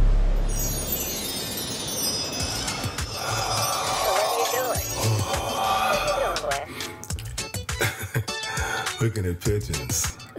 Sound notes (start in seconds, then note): 3.8 cellphone; 7.4 laughing